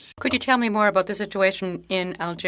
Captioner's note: speaking French